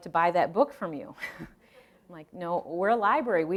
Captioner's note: laughing